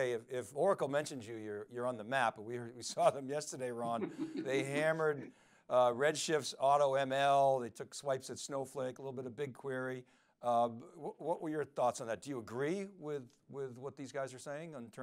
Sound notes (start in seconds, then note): 3.8 laughing